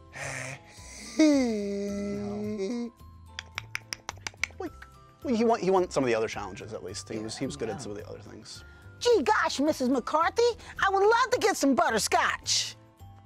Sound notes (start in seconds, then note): 2.9 clicks